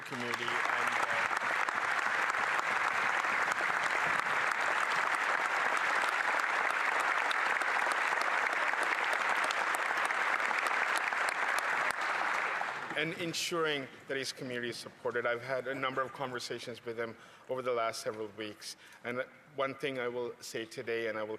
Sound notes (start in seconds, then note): 4.7 applause